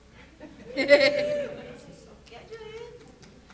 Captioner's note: audience cheering; chuckling